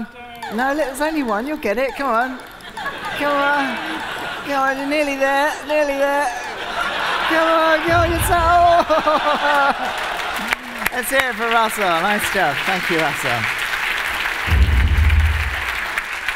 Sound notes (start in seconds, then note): 6.6 laughter; 7.6 applause; 16.1 applause